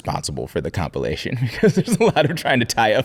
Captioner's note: laughing